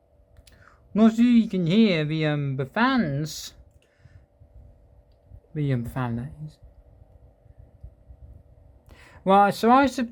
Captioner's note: quiet fan noise